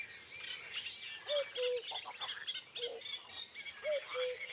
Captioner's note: cuckoo croaking